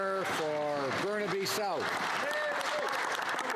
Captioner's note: some Applause